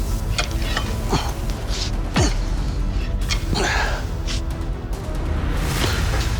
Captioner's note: grunting